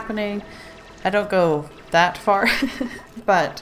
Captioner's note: laughs